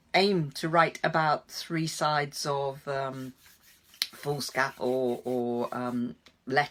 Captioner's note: none